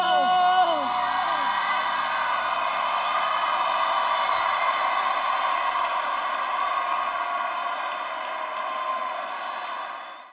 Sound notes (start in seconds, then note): 1.3 crowd screaming